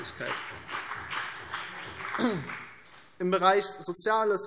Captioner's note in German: Beifall BÜNDNIS 90/DIE GRÜNEN und vereinzelt CDU